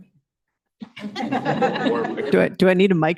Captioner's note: laughter